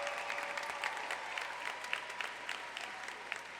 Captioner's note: applause